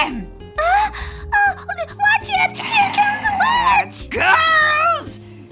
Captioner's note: throat clearing; gasps